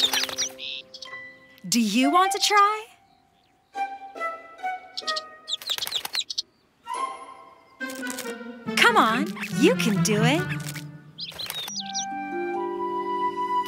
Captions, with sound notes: Do you want to try? (slow upbeat music) (bird twittering) Come on, you can do it. (slow upbeat music)